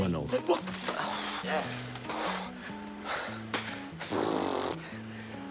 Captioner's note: heavy breathing